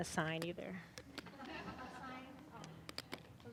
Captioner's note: audience laughing